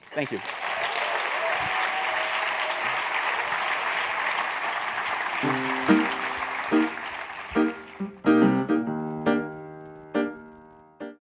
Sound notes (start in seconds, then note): 1.5 applause